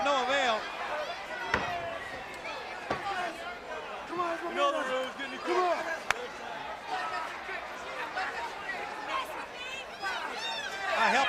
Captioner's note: crowd chatter